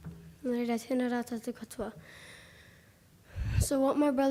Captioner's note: speaking foreign language